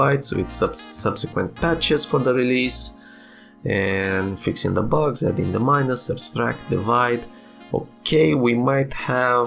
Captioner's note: rambling